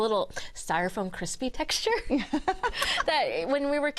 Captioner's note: laughing